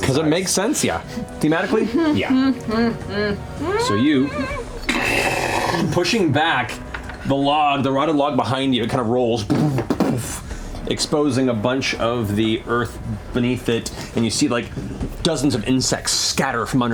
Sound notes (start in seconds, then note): 3.0 victorious humming; 5.0 thudding